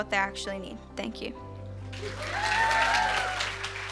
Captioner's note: cheers and applause